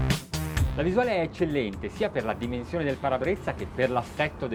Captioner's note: speaking Italian